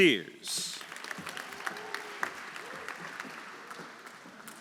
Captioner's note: audience applauding; audience cheering